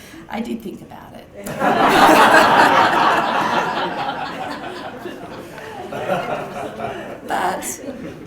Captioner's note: laugh